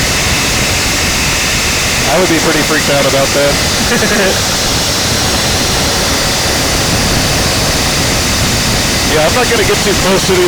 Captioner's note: laugh